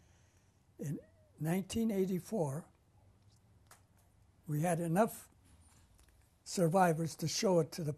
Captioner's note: pauses for 3 seconds